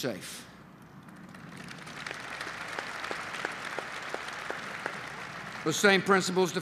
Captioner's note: applause